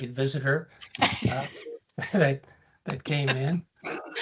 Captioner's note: laughs